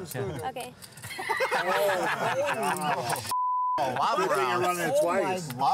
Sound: laughter

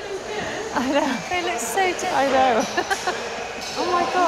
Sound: laughs

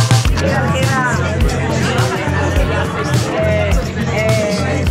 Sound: people chattering

